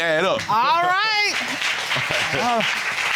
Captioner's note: chuckles; audience applauds